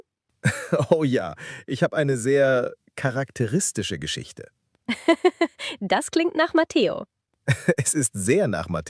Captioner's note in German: gelächter; gelächter